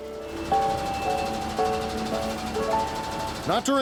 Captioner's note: engine rumbling